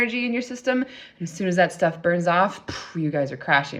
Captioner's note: exhales